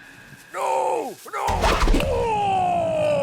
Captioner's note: grunts